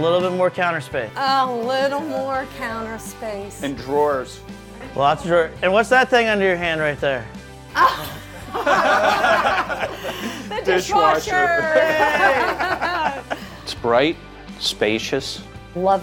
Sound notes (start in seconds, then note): 9.5 laughter; 13.5 laughter